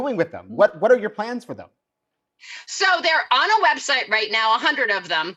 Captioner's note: none